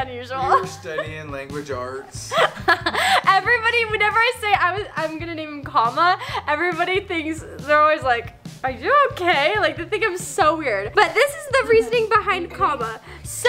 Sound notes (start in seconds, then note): 2.2 laughing